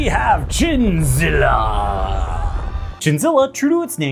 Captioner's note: people screaming, earthquake noises, etc